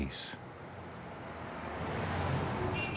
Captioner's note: traffic humming; car horn honking